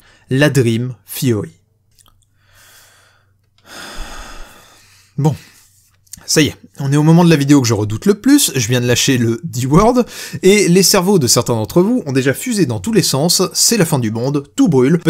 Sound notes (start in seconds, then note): 3.6 sighs